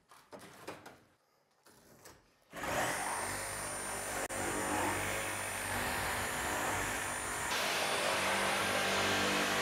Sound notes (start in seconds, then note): 2.6 power tool buzzing